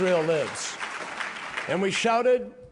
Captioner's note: applause